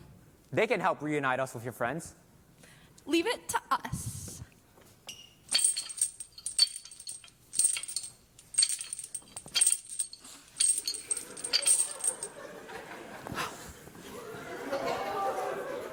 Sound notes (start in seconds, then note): 5.4 chain shackle noises